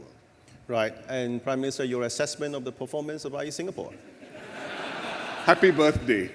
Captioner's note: laughter